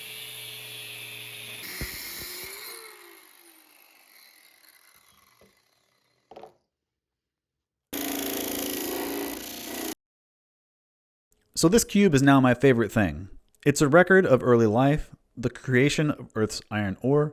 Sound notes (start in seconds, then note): 1.6 mechanical whirring; 8.0 metal Grinding